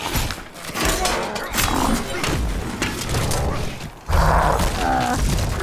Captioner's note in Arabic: دولاب وداريوس شخير; دولاب شخير